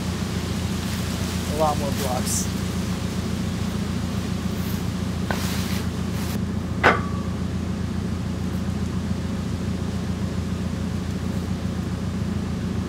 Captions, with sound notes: A lot more blocks. (track frame clangs) (telehandler engine humming)